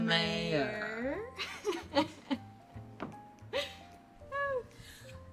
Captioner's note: Bree laughs